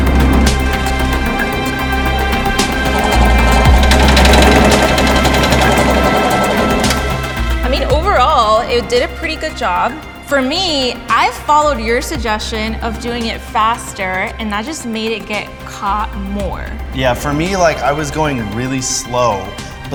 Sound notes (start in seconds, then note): 0.1 upbeat music; 4.5 bread slicer whirs